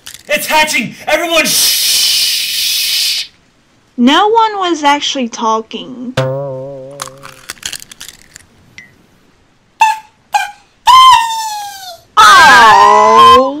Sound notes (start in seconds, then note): 6.7 egg crackling